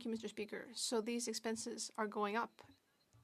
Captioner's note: speaking French